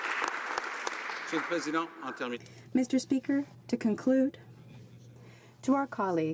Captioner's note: applause